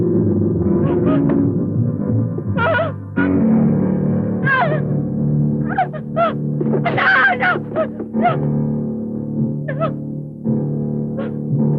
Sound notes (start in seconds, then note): 2.3 gasping; 4.6 sobbing